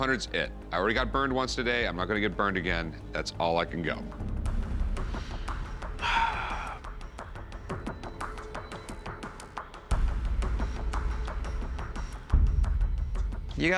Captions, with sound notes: $500's it. I already got burned once today. I'm not going to get burned again. That's all I can go. [sighs]